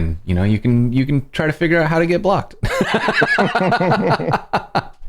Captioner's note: laughter